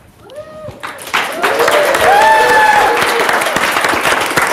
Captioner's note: audience cheers